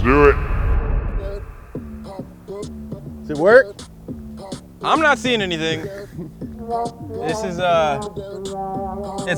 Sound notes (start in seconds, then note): 1.9 hip hop music playing; 6.8 fail trumpet plays